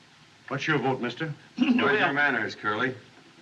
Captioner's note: clears Throat